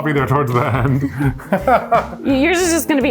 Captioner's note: laughs